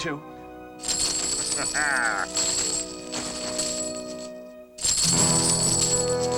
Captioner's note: coins clinking, Captain laughing happily